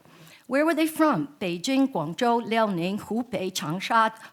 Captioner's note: speaks in foreign language